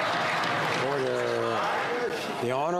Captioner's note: some Applause